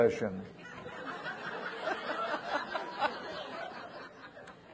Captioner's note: people laughing